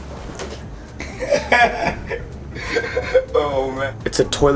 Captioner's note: laughs